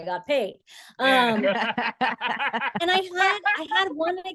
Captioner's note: laugh